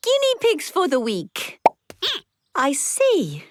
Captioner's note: squeaking